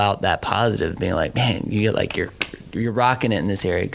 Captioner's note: hands clapping